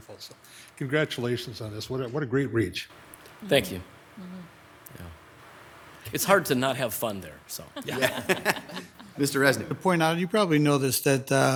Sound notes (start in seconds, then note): 7.5 members laughing